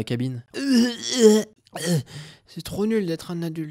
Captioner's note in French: vomissements